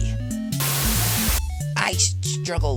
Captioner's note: Static